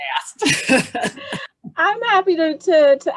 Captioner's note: laughing